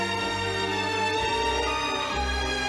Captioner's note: none